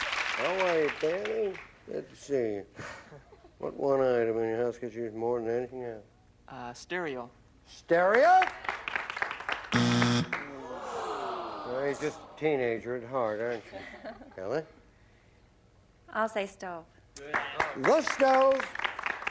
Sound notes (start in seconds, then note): 9.7 buzz